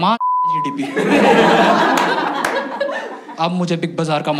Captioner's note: laughs